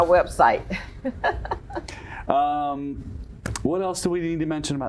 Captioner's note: chuckles